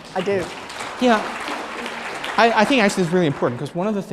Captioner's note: applause